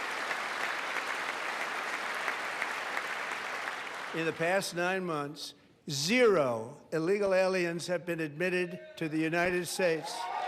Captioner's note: applause